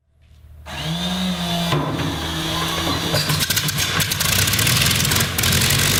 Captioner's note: plane engine firing